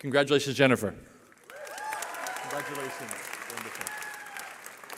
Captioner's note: cheering